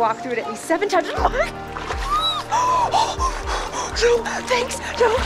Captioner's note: squeeling